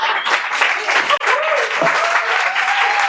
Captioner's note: laughs; applause